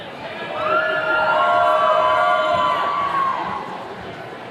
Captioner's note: attendees cheering